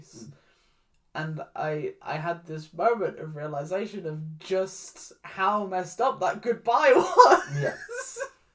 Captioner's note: laughs